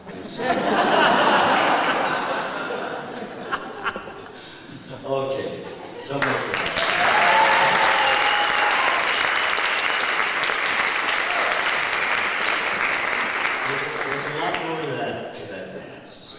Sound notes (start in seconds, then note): 0.0 laughter; 6.1 applause